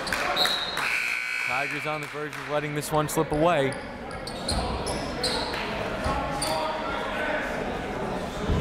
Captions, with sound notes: (whistle) (buzzer) Tigers on the verge of letting this one slip away.